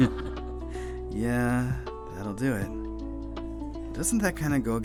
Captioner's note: chuckles